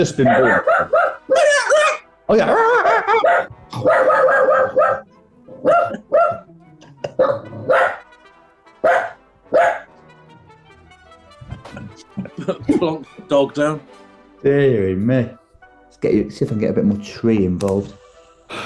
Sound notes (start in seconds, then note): 0.2 dog barking from horne's screen; 3.7 dog barking from horne's screen; 18.4 sighs